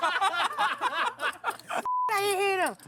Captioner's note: table laughs